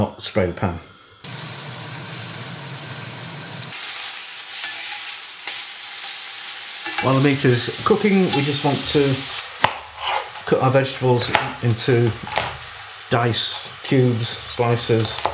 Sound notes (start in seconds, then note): 1.2 extractor hummin; 4.2 meat sizzlin